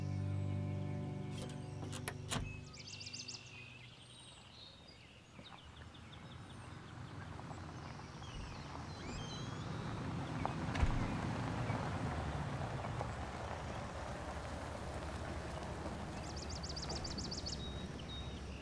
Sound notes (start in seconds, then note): 1.3 trunk clacks; 4.6 vehicle whirring; 8.2 door creaks and thuds